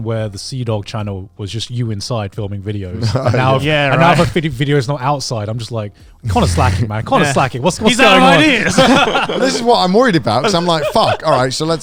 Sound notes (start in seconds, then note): 7.8 group laughs